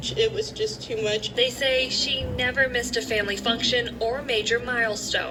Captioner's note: on TV